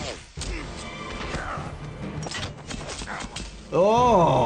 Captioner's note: crossbow clanks; dramatic music; Snake grunts